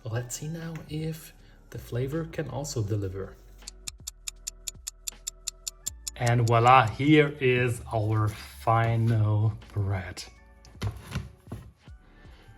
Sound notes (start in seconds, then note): 3.6 clock ticking